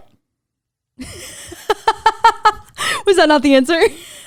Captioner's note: laughing